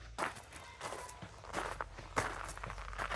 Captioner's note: footsteps on gravel